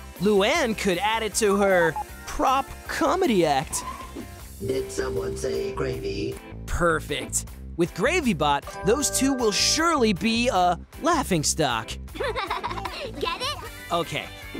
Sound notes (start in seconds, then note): 12.2 laughing